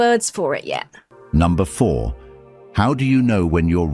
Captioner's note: AI Voice